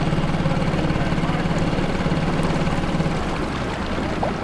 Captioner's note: motor rumbling